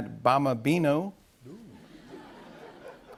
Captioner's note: laughter